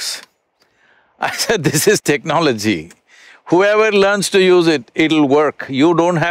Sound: laughs

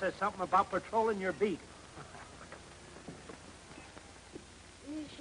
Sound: man chuckles

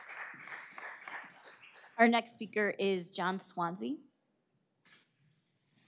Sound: applause

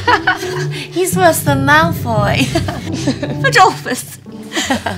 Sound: laughs

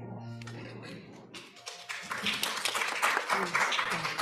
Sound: audience applauds

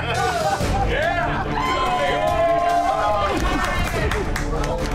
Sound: patrons cheering

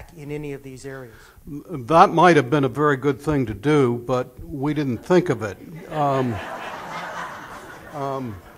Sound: laughter

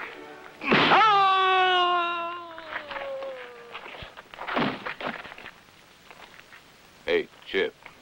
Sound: scream

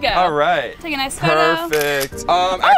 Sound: camera snapping

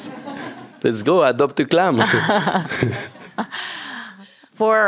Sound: laughs

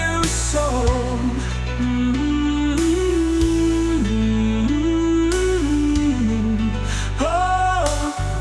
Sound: humming

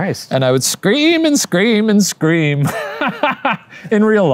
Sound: laughs

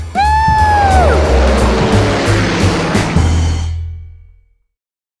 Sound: plane engine roars

